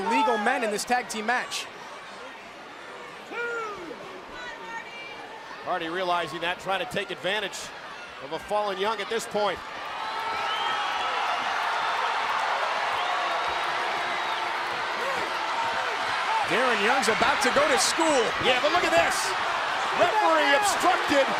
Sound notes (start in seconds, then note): 11.1 crowd cheering